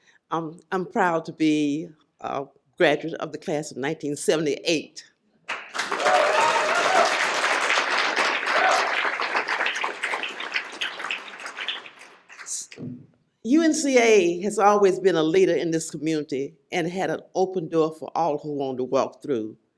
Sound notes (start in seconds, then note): 5.4 applause